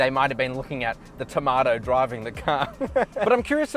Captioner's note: laughs